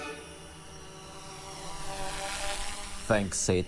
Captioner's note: whirring